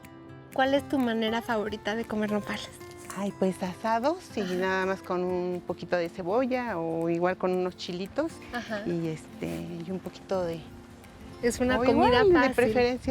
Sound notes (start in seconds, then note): 0.2 speaking Spanish; 9.6 wind blowing